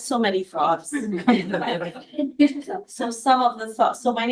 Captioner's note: all laugh